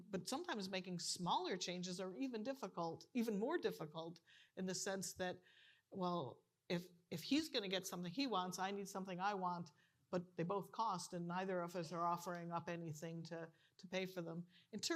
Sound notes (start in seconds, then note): none